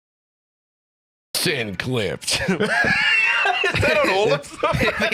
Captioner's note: laughs